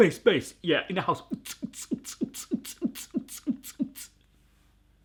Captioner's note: beat boxes